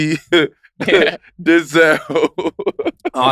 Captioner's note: laughs